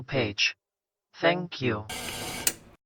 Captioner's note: static, then a click